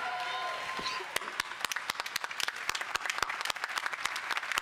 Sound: applause

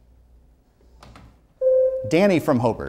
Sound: buzzer sounds

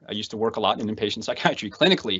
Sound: laughs

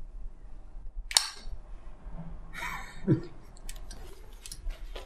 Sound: gun clicking

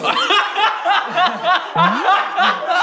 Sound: laughing

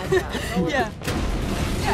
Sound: laughs

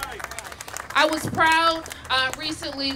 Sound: applause

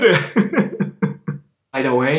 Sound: chuckles

